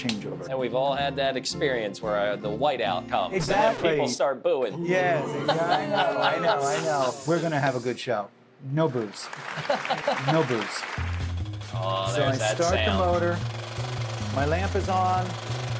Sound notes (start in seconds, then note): 5.1 laughing; 9.5 laughing; 10.7 reel clicking